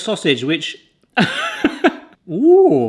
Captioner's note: laughs